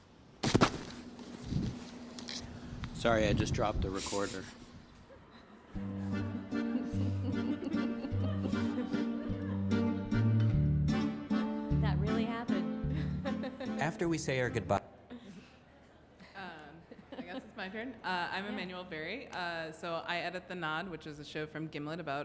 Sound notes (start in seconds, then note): 6.1 lighthearted music; 8.1 audience laughs